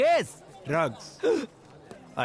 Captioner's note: Gasps